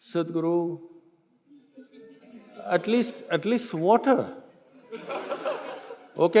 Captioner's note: few laugh; laughter